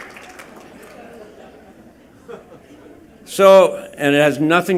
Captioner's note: laughter and applause